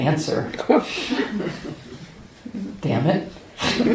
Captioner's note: laughter